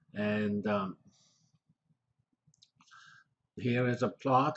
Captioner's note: pause